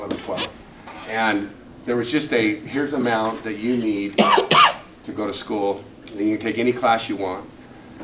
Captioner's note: cough